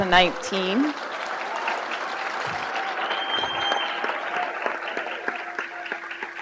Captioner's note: crowd cheers and applauds